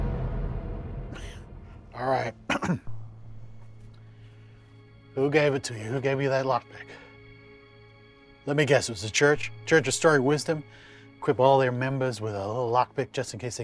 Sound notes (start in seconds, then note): 2.4 clears throat; 3.2 intriguing music